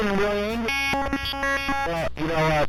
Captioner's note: glitching noise